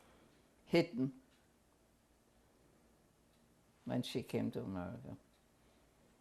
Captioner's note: pauses for 3 seconds